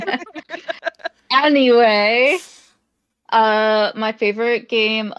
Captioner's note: chuckling